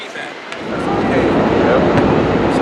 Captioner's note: wind